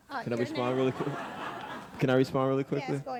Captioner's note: audience laughing